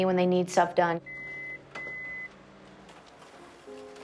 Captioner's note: copier beeps